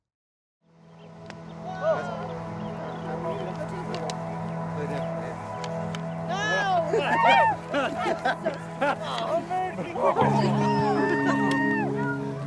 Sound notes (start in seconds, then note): 5.6 sticks clapping; 8.0 excited shouting, laughing